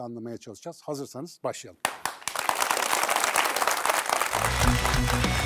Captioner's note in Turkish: alkış